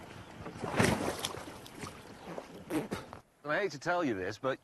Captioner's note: splash; james sputters